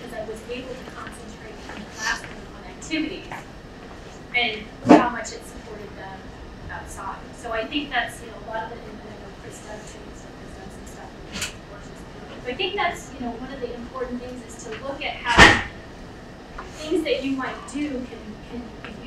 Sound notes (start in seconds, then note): 10.4 speaking away from mic